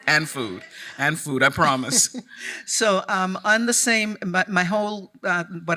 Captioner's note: chuckling